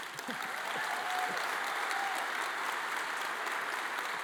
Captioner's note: audience applauding